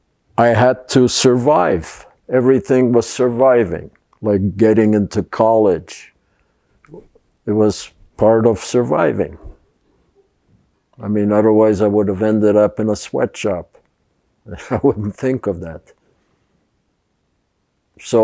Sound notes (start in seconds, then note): 14.5 laughing